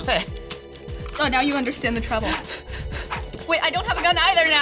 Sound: pants

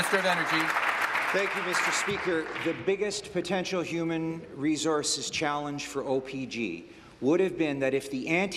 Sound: applause

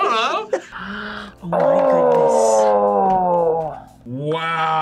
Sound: gasps

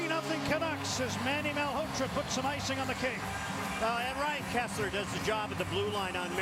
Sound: cheers, applause

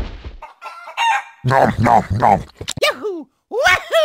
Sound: clucking; nom nom nom

